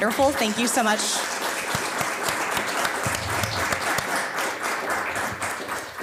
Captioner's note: audience applauding